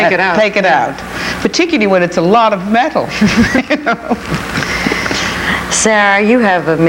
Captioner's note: chuckles